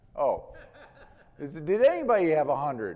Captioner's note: man laughing